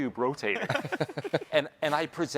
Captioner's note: hosts laughing